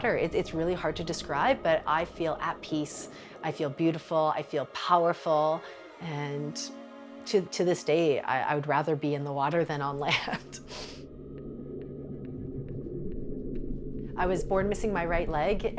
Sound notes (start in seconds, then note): 10.3 laughs